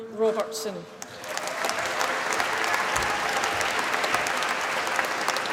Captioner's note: applause